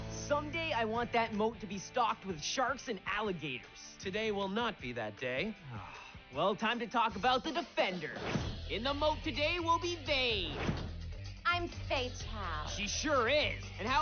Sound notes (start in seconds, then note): 5.6 sighs